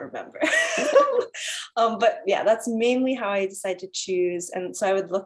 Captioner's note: laugh